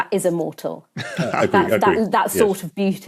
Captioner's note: laughs